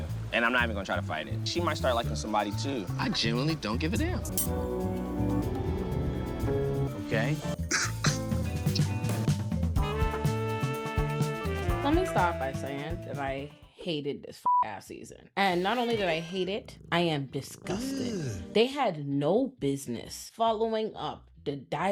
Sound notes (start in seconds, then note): 5.3 dramatic music; 7.5 laughs; 14.4 beep